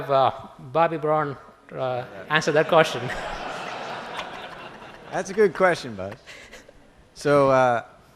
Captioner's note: laughter